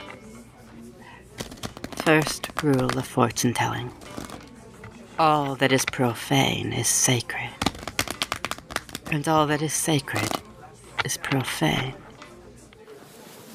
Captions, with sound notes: [Shuffling] First rule of fortune telling: All that is profane is sacred. And all that is sacred is profane.